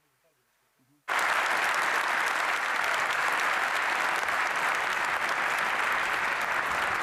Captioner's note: applause